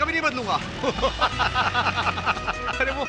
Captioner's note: laughing